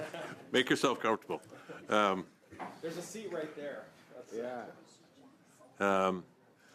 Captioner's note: laughter